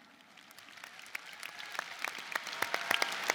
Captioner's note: applause